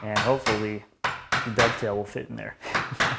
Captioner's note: mallet on chisel tapping